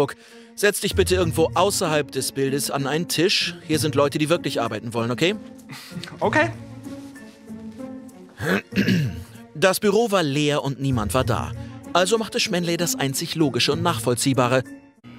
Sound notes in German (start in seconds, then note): 6.6 Erwartungsvolle Musik; 8.4 Räuspern